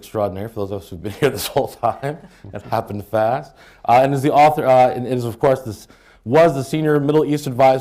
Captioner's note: laughs